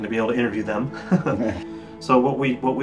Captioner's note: chuckles